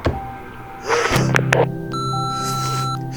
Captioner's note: gasp